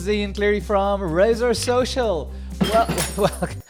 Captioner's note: glass breaks; laughs